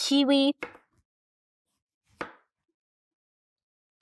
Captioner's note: knife thudding